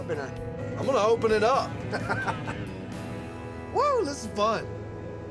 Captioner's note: laughing